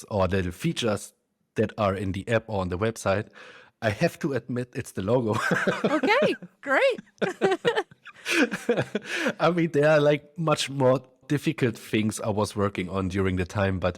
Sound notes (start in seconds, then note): 5.3 laughs; 6.7 both laugh